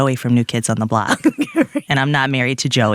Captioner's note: laughs